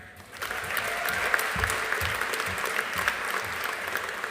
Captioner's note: audience applauding